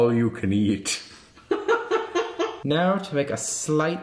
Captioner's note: laughing